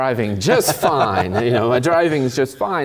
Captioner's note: laugh